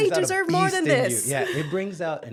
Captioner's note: laughs